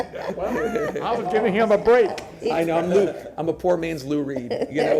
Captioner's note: laughter